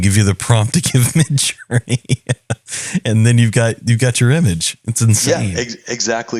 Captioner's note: laugh